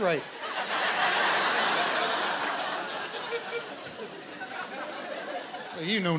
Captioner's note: laughter